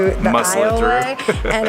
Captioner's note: laughs